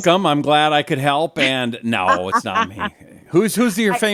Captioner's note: laughs